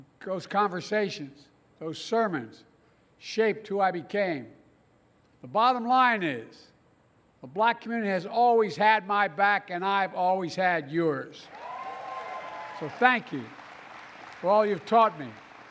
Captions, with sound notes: Those conversations, those sermons shaped who I became. The bottom line is the Black community has always had my back, and I’ve always had yours. (Applause.) So, thank you for all you’ve taught me.